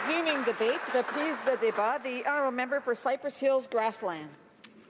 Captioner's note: some Applause